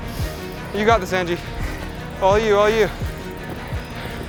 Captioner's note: chanting